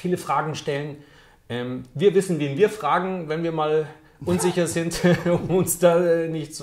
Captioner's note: laughs